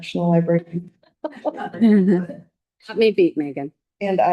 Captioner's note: all laughing